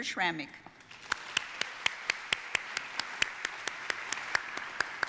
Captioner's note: audience applauding